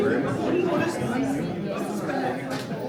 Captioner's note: crowd chattering